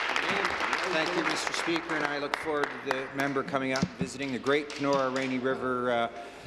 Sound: applause

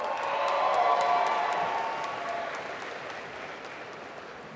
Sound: applause

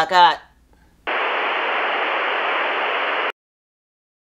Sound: static

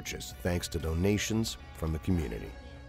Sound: voiceover

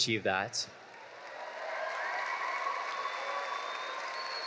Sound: audience cheering

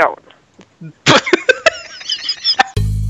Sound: laughing

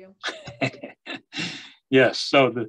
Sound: laughs

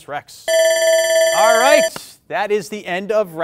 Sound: timer rings

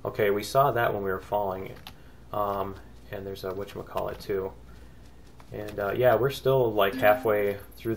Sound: ding

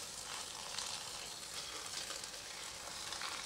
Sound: boiling water

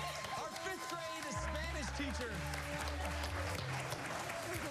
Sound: cheers and applause

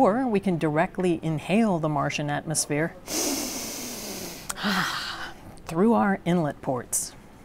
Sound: deep breath

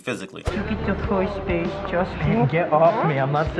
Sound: baby voice

